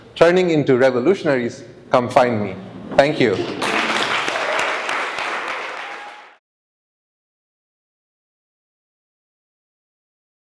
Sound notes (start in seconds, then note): 3.3 audience applauding